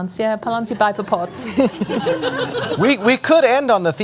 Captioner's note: laughter